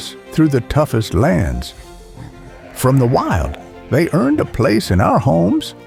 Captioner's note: dog whining